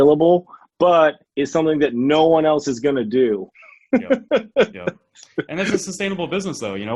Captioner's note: laughs